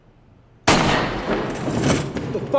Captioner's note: gunshot